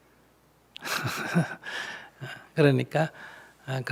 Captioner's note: laughter